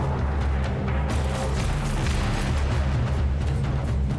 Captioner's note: shots